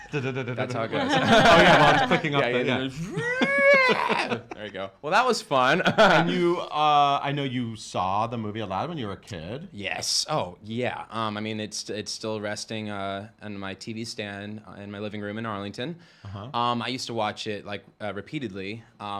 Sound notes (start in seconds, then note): 0.0 laughing; 3.7 screeches